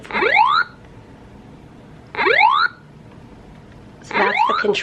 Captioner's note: Pac-man game sounds